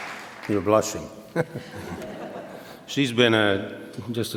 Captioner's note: laughs